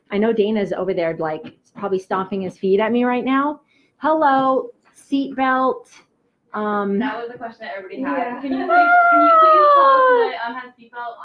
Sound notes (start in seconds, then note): 8.7 laughs